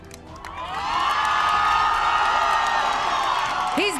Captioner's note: crowd cheers